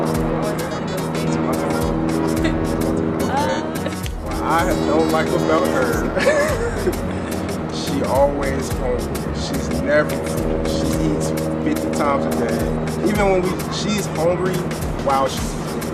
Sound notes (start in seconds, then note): 4.0 claps; 6.7 laughs